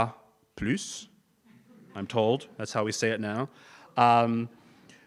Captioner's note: laugh